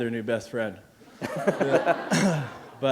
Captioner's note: laughter